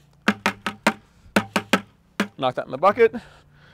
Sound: loud tapping

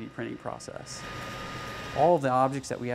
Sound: machine whirring

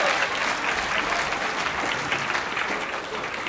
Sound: laughs, cheers

